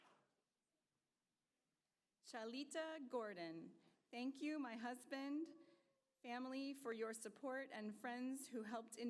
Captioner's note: applause